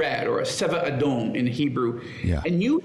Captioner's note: speaking in foreign language